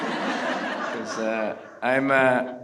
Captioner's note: everyone laughs